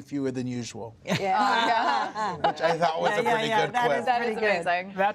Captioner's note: laughter